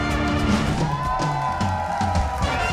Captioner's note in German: Jubel